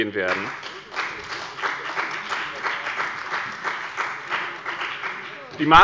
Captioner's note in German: Beifall bei dem BÜNDNIS 90/ DIE GRÜNEN und der CDU